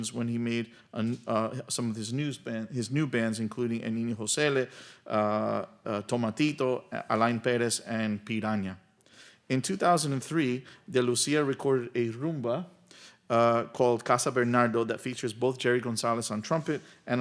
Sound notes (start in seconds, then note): none